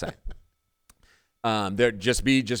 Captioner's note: laughing